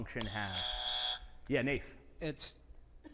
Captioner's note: buzzer buzzing